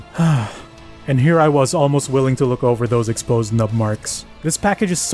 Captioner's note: sigh